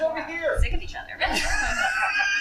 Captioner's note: laughter